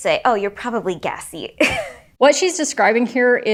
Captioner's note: chuckles